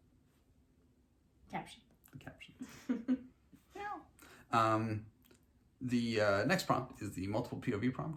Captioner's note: meows